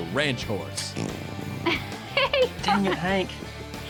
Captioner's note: horse passes gas, laughs